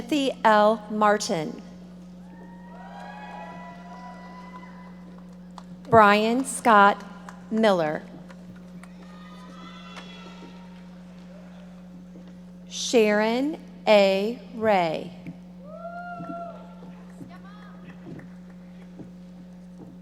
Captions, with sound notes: Timothy L. Martin. (audience members cheering) Brian Scott Miller. (audience members shouting) Sharon A. Ray. (audience members cheering)